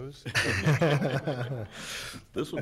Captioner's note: all laugh